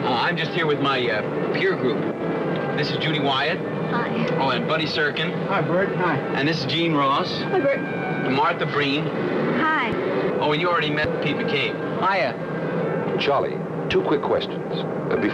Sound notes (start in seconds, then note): 12.3 vehicle traffic noise